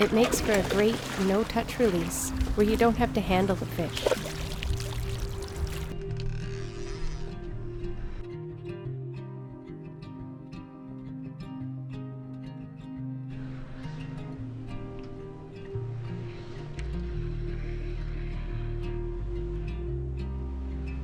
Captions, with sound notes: It makes for a great no touch release where you don't have to handle the fish. (peaceful guitar music) (fishing rod whirring)